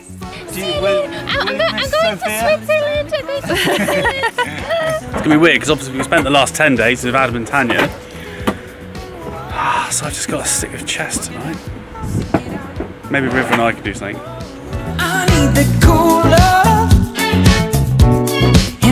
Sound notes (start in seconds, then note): 3.5 laughs